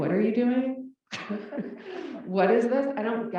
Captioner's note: laugh